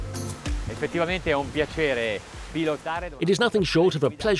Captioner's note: speaking in foreign language